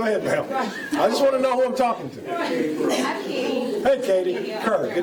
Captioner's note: laughter